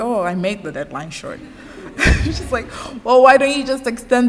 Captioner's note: laughter